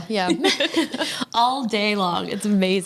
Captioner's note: women laughing